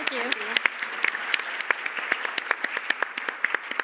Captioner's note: Aplodit